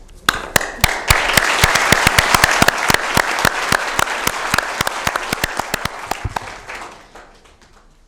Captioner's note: applause